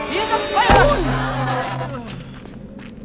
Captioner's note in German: Schrei, Ächzen